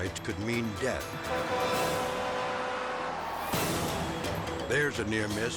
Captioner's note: truck hooter hooting